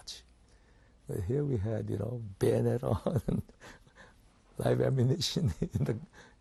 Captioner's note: laughs